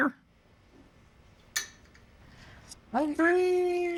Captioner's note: clicking